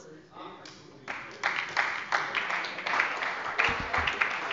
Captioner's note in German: Beifall bei der SPD